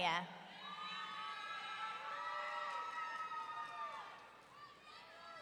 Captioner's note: audience cheering